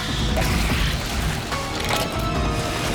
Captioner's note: mechanical clicks